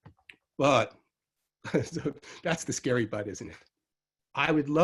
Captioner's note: chuckles